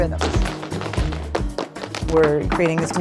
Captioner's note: shoes tapping